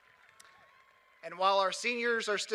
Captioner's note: cheers and applause